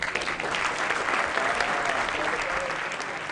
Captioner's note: applause